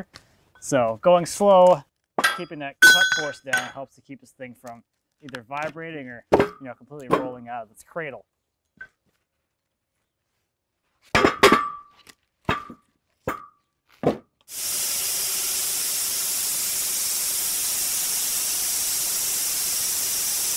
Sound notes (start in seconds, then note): 11.2 metal clanging; 14.5 machine sawing